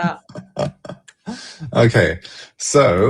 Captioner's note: laughter